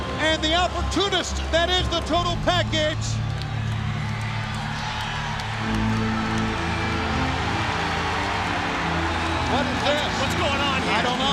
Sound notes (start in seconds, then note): 4.8 audience cheering; 6.2 dramatic music